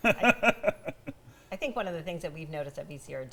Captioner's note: laughter